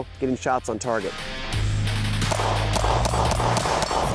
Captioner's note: gunshots